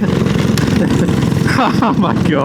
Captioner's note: laughter